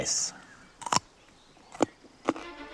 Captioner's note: crunch!